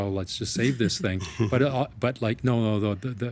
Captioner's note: chuckling